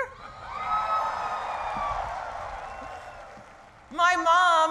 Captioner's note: cheering